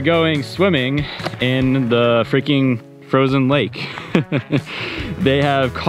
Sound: chuckles

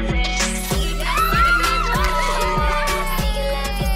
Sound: girls cheer

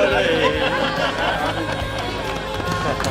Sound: clapping

